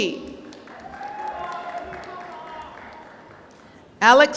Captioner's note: applause